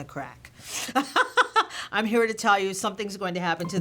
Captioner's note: laughter